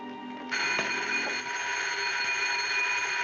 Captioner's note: telephone ringing